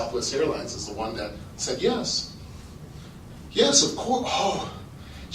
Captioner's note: sigh